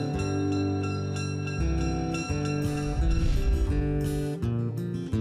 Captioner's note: train bell ringing